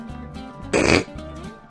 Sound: snorts

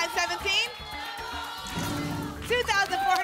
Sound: cheering

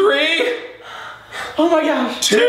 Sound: panting

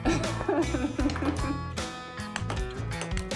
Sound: laughing

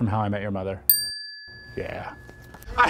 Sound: bell dings

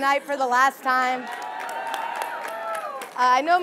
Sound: audience cheering

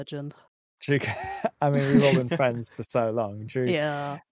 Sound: laughs

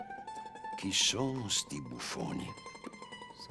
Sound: in Italian

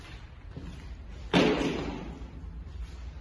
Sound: brick thrown on the floor

